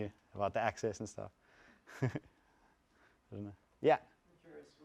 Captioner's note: laughs